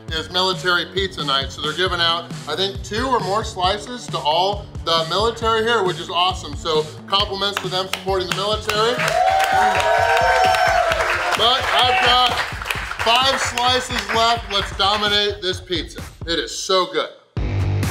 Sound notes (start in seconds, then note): 8.6 audience cheering